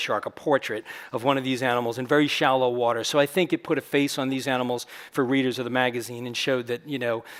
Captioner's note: none